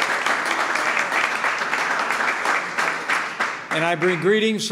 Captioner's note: applause